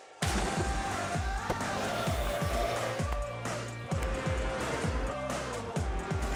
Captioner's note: vocalizing; water splashes